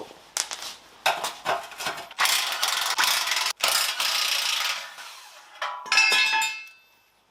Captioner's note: working sound